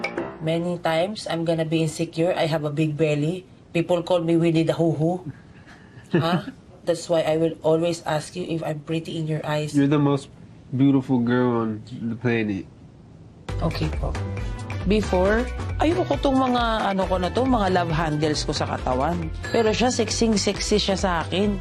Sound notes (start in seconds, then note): 6.0 chuckles